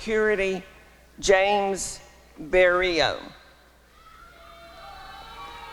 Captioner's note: applause and cheering